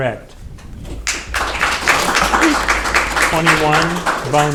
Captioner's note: audience applauding